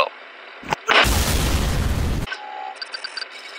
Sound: rtx card explodes

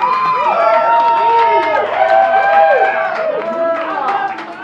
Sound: wild applause

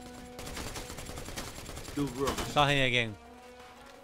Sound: guns firing

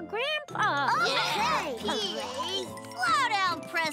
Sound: cheering

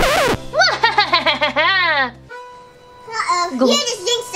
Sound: evil laughter erupts

